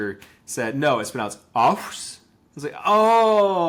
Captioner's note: speaking in Lushootseed language